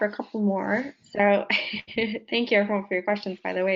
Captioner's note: laughs